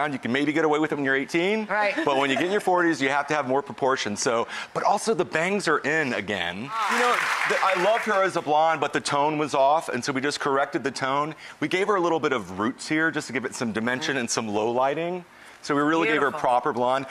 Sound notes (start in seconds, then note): 6.7 audience claps